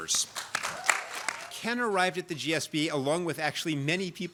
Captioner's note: applause